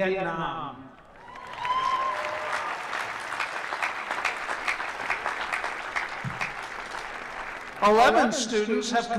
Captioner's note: applause